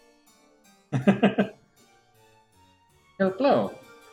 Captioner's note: Musky chuckles